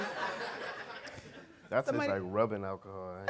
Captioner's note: audience laughing